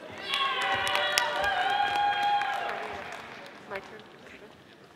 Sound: audience applauding

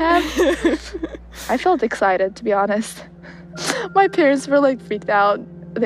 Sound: laughs

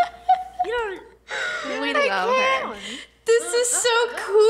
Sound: laughs

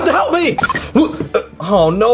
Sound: tone beeps

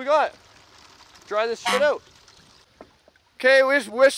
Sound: horn honks

